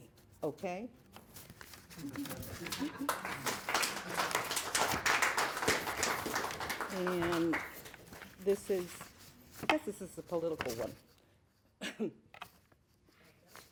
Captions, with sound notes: (applause) And this is, I guess this is a political one.